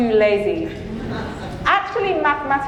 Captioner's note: audience chuckling